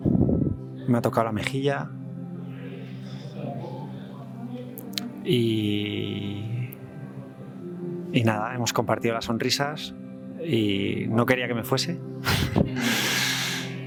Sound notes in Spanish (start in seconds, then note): 12.2 risas